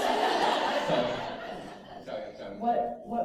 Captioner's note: laughter